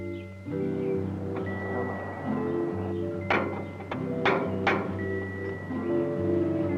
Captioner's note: tools rattling and tapping